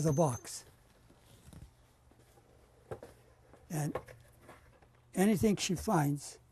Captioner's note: pauses for 3 seconds